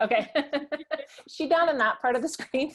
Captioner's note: laughing